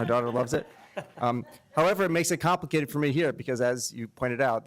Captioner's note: laughter